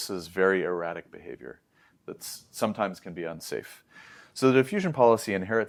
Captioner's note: inhales